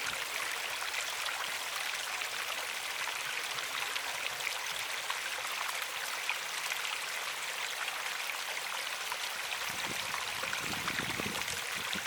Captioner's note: water gurgling